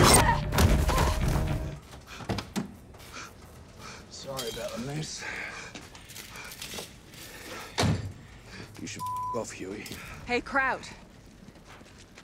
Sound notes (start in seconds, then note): 0.5 Annie thuds; 7.7 door slams; 9.0 beep